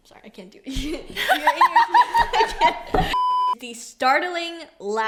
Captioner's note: laughs